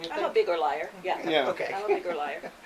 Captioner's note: chuckles